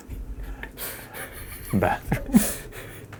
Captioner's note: both laughing